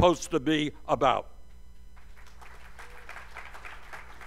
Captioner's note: applause